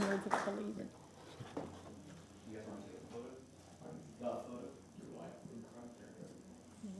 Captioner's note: applause